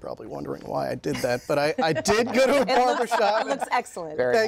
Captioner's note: laughter